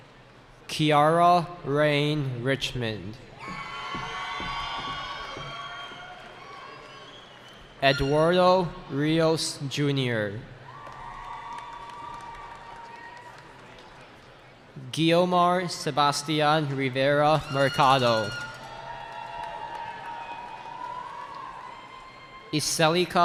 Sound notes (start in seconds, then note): 3.3 cheering; 10.6 cheering; 19.1 cheering